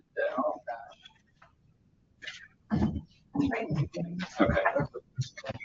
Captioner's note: members chattering